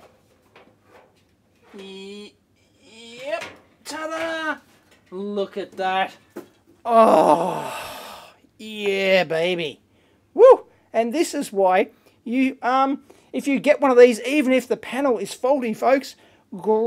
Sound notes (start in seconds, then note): 0.2 sheet metal clanging; 6.8 happy sigh